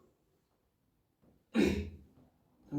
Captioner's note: clears throat